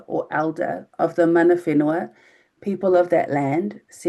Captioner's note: speaking in foreign language